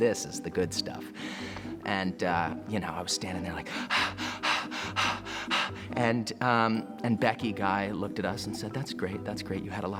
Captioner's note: panting